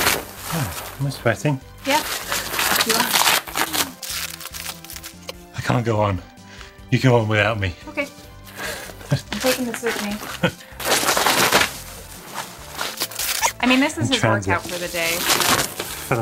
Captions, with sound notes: - Huh, am I sweating? - Yeah, you are. I can't go on, you go on without me. - Okay, I'm taking this with me. (laughing) (bubble wrap tearing) I mean this is his workout for the day.